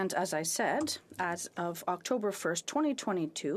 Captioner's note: speaking French